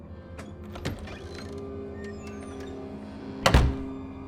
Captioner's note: eerie music; door latch clicks; door slams